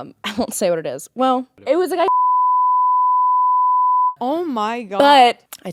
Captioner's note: beep